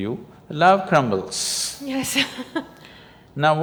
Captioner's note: laughs